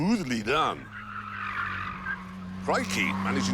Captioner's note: tyres squeal